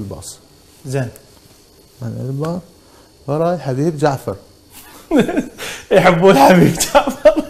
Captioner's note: laughs